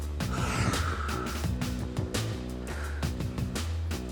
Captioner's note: sighs